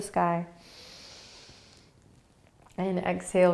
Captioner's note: inhaling